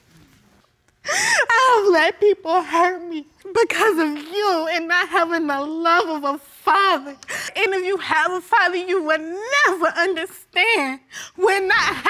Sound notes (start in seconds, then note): 1.0 sobbing